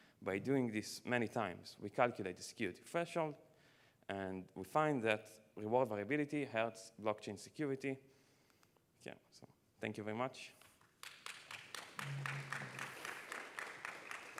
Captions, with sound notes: By doing this many times, we calculate the security threshold, and we find that reward variability hurts blockchain security. OK, so thank you very much. [APPLAUSE]